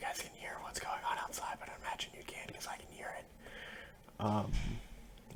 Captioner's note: whispering about something off topic that doesn't matter